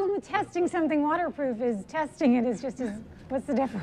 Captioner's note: laughs